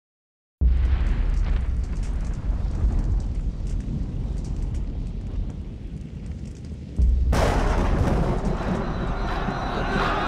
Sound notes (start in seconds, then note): 0.6 fire crackling; 6.9 thunder booming